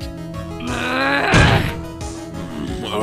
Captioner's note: irritated growl